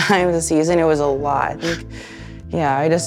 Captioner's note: laughing